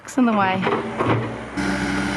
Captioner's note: machinery